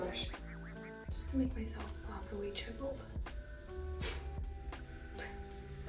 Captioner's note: laughs